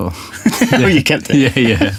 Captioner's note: laughter; laughter* You kept it?